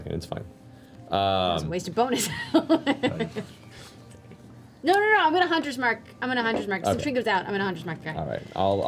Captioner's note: laughs